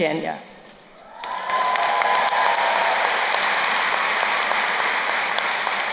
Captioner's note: crowd cheering and applauding